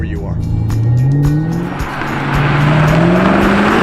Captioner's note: engine revving